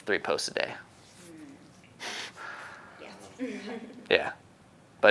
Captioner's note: laughing